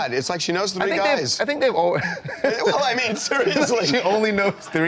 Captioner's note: laughter